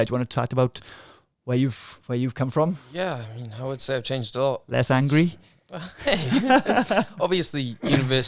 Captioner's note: laughing